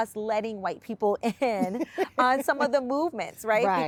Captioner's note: laughs